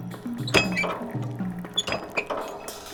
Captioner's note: machinery clangs